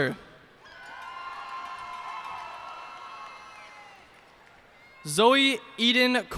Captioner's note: cheers and applause